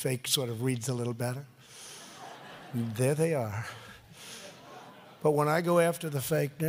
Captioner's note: laughter